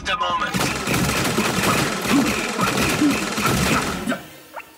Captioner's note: blaster Gunfire